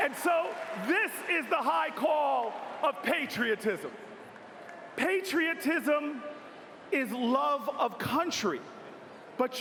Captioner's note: cheers and applause